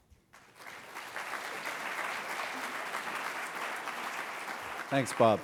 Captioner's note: applause